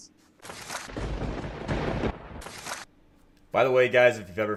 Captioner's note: thunder cracking